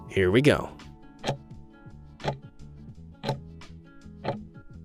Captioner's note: timer ticking